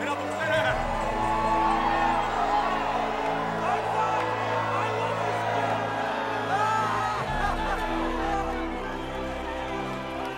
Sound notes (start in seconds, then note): 2.0 cheering; 5.8 cheering